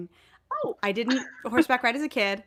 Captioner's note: laughs